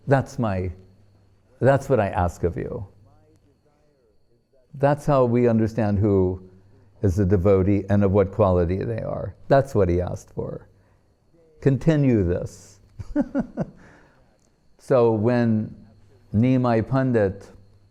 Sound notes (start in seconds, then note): 12.9 laughing